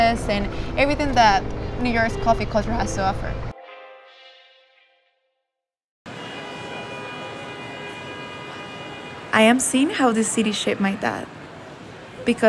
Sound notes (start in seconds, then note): 6.1 car horn honking faintly